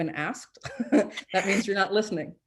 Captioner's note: chuckles